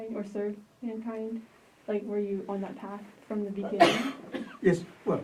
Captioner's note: coughs